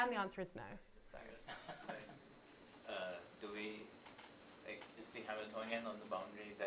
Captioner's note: laughs